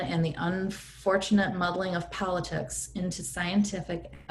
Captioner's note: none